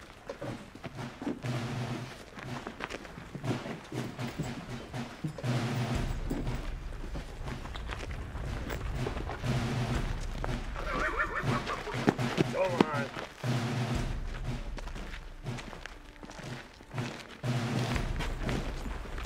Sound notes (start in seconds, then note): 10.7 horse neighing; 15.0 patriotic music continues